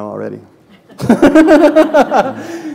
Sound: laughter

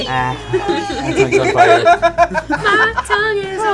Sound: laughing

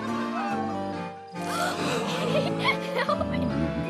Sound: gasps

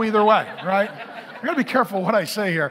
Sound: congregation laughing

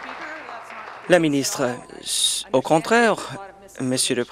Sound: applause

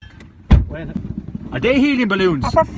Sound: door shut

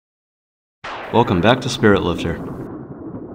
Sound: thunder clap

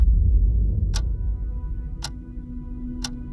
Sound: clock ticking

